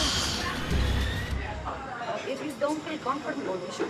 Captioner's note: sighs